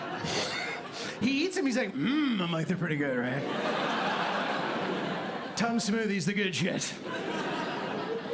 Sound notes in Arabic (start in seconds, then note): 0.0 يضحك; 4.0 ضحك